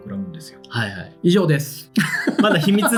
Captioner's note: laughs